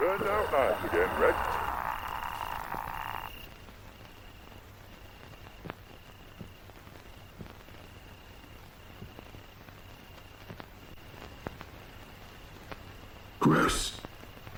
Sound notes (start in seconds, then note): 2.9 crickets chirping